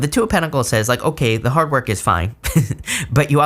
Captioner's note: chuckles